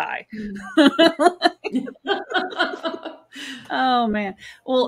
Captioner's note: both laughing